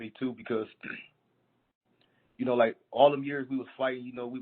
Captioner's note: clearing throat